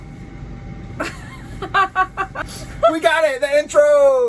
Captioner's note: laughing